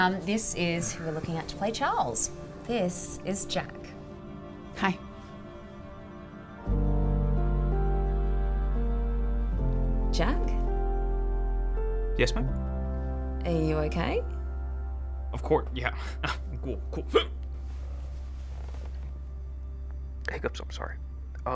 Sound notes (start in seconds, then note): 5.1 gentle dramatic music; 6.7 gentle wistful music; 17.1 hiccups